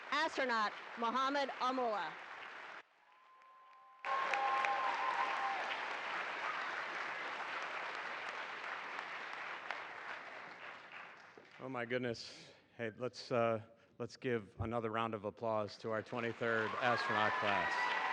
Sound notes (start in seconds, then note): 4.7 applause